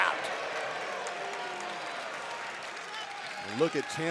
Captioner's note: crowd applauds